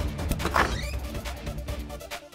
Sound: door opens

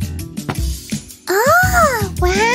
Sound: meows

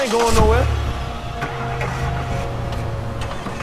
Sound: engines starting

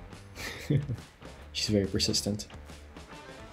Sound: chuckles

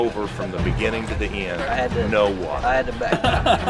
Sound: laughing

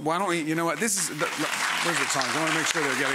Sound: audience applauding

